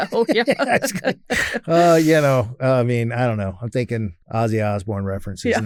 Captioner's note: laughs